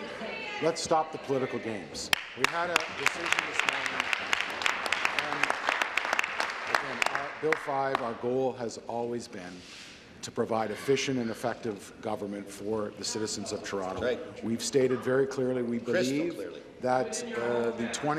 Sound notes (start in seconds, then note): 5.9 applause